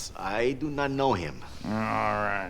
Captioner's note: chuckles